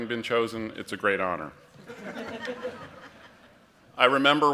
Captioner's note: laughter